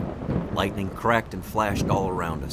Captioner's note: thunder roaring